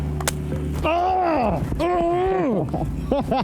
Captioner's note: men grunt; men laugh